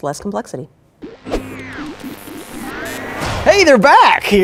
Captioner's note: antenna transmitting electrical signals